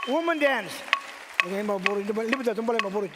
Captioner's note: audience cheers and applauds; sings in native language